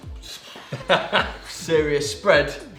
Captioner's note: laughs; scoffs